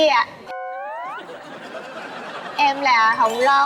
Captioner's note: sound effect + Laughing